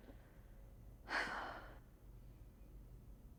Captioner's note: sighs